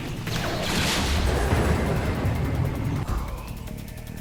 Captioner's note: explosion rumbling